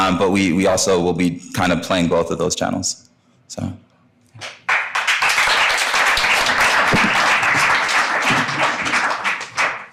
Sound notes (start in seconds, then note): 4.6 audience applauding